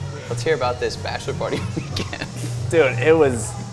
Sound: laughs

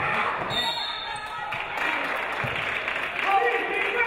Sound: referee blows whistle; audience applauding

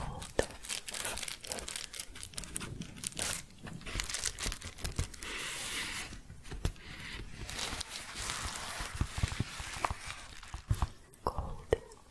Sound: crinkling, tapping, and shuffling

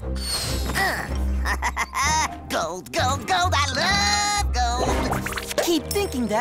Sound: laughing

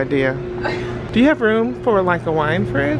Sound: laughs

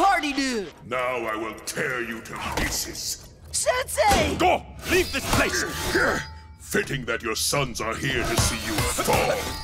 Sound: none

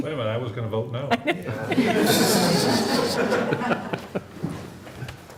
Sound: laughter

